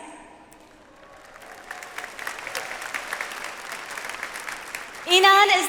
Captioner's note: audience applauds